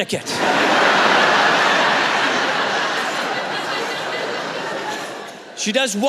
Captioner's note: laughter